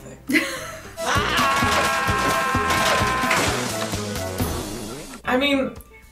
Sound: More of Jim Varney screaming cause we could never get enough

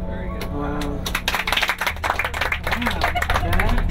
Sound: applause

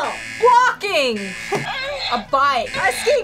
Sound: buzzer moans

